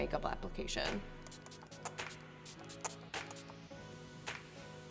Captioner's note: bottle spraying